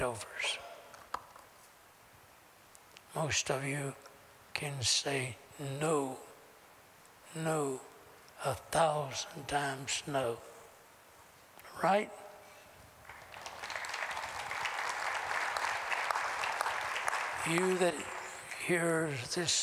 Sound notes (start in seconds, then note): 13.0 applause